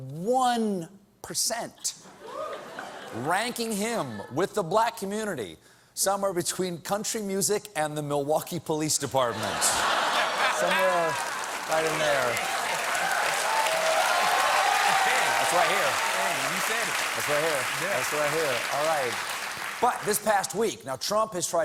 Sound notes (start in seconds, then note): 2.1 laughter; 5.7 applause